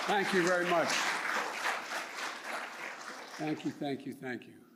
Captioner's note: applause